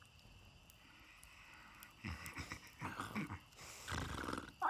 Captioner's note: snoring